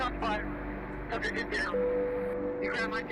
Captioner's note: muffled voice on a radio